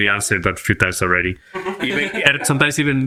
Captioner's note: laughs